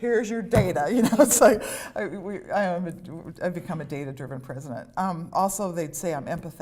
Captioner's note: laughter